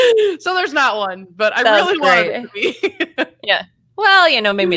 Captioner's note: laughs